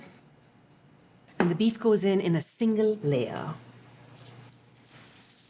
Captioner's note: sizzling